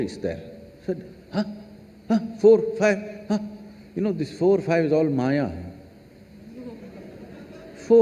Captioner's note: laughter